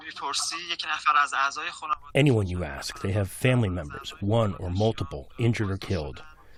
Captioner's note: through translator